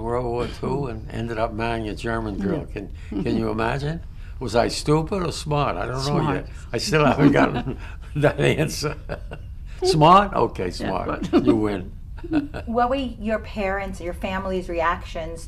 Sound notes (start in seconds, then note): 2.3 laughs; 6.9 laughter; 10.8 laughter